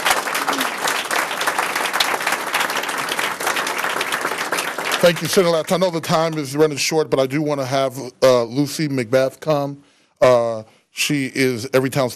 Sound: applause

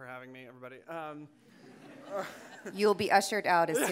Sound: audience laughing

